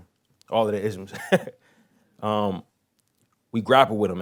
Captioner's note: laughs